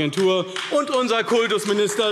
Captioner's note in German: Beifall AfD